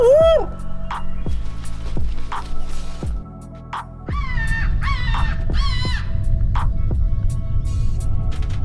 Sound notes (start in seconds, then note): 4.2 bird squawking